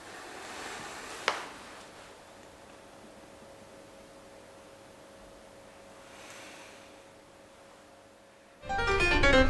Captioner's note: silence